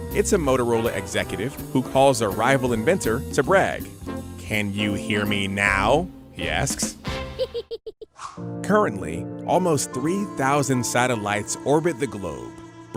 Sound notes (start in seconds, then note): 7.3 mischievous laugh